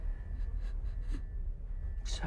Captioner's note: sobbing